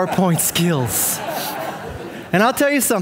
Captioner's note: audience laughing